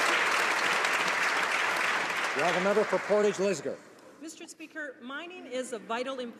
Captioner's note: some Applause